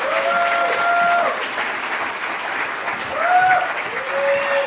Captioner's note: audience applauds; audience cheers